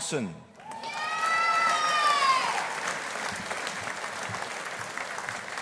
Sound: audience applauding

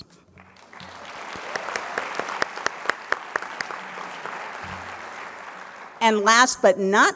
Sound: applause

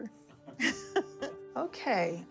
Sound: laughter

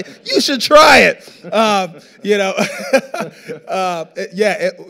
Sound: laughing

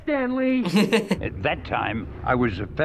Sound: laughs

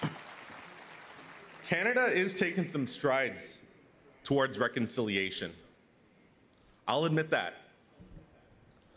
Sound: applause

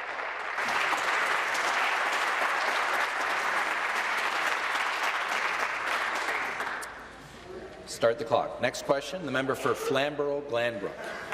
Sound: applause

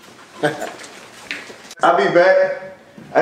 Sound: man laughing

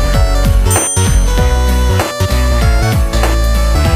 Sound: bell dinging

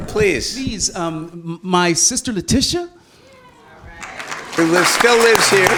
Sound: applause

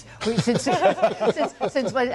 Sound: laughter

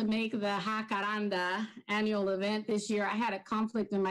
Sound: speaking in foreign language

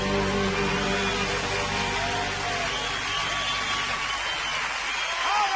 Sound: audience cheering

